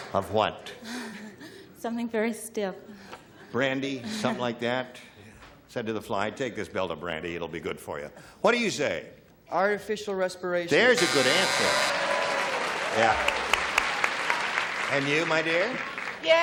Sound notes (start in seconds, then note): 10.8 buzzer; 12.0 applause